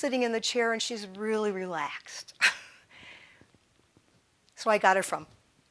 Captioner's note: chuckling